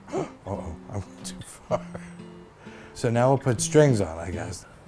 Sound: gasp

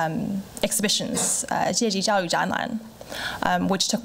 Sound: foreign language

